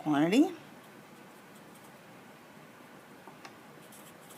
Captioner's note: pen scratches